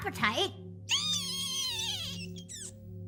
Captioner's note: squeaking